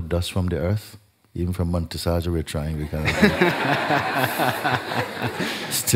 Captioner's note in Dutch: gelach